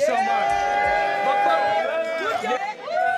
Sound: cheering

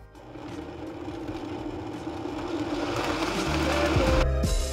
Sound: blender buzzing

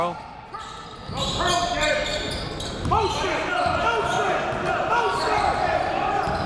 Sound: coaches yelling; crowd talking

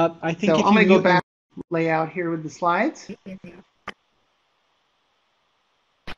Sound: voiceover

